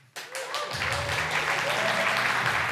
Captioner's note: applause